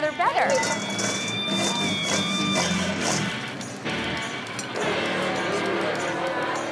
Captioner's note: upbeat music; fries shaking